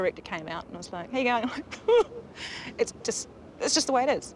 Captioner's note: mock crying